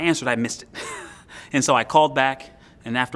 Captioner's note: chuckling